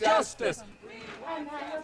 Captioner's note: crowd continues to chant